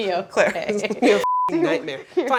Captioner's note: laughing; beeping